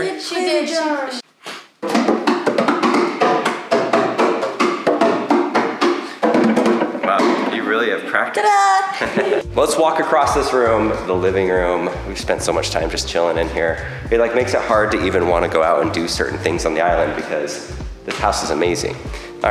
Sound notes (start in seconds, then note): 1.8 drumming; 8.9 chuckles